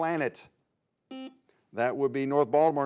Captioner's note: buzzer beeps